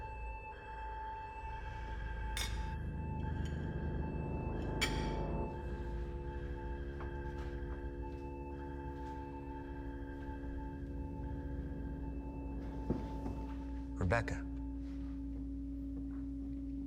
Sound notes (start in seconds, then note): 2.4 utensils clinking; 2.4 knife clinking